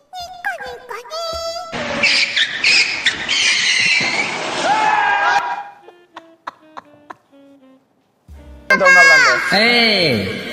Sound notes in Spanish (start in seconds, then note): 1.8 Chirrido de frenos igual a "Nico, nico, niii"; 4.5 Gritos